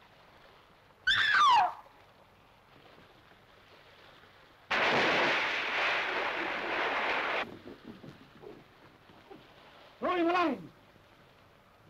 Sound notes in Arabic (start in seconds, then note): 1.0 تصرخ; 5.0 رش الماء